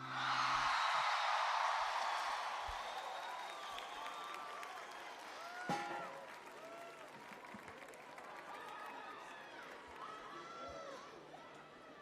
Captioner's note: crowd cheering